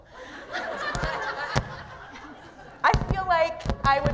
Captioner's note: laughter